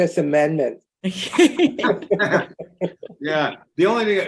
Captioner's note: group laughing